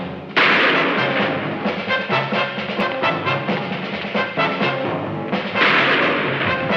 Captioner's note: feet thumping; gun shooting